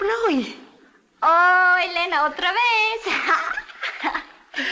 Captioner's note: in spanish